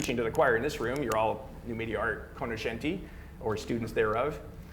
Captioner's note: speaking foreign language